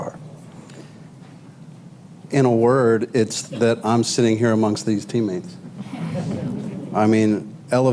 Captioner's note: laughter